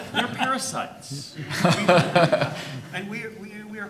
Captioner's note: audience laughing